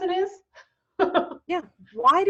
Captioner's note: laughing